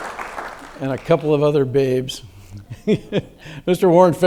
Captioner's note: audience claps; laughs